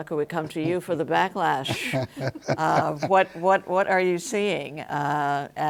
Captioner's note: laughs